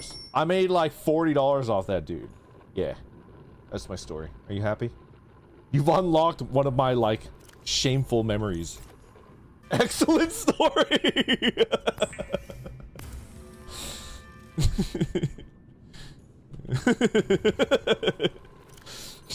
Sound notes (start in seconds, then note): 14.4 chuckles; 16.6 laughs